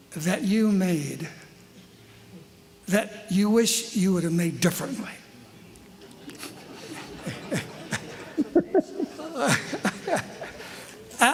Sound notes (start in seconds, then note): 6.1 laughter